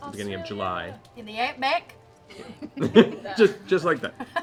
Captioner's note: Australian accent